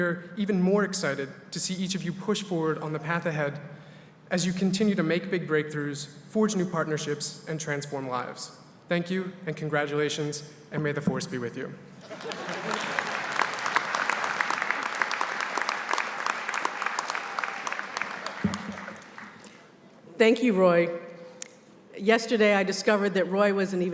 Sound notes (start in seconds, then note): 12.0 laughter, applause